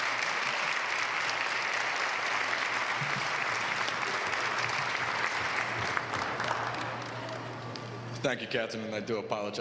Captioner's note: applause